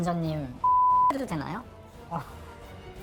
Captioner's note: beep